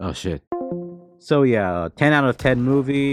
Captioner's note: call ends